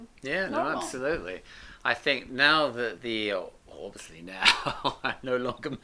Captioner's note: laughs